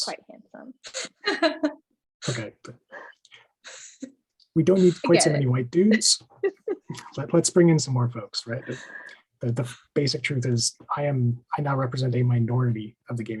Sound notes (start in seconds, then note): 1.2 panelists laugh together